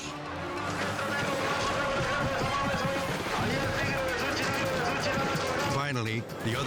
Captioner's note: announcer shouting in foreign language